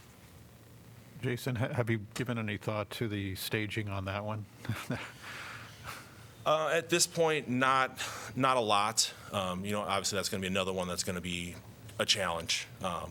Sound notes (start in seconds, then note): 4.6 laughter